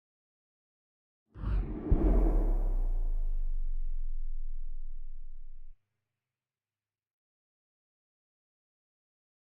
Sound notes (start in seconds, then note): 1.3 whoosh sound